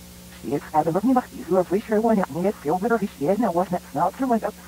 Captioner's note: reversed chatter